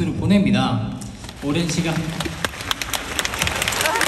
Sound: pouring applause

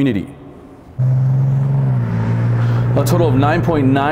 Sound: car engine roaring

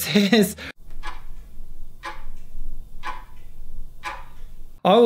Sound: clock ticking

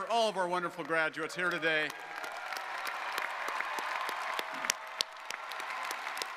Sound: audience applauding

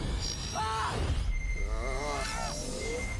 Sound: beeping

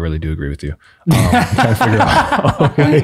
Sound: group laughs

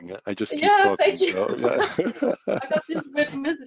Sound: both laughing

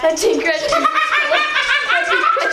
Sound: laughs

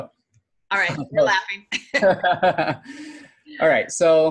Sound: laughing

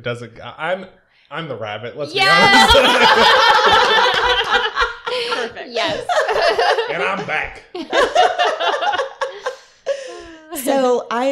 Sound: laughter

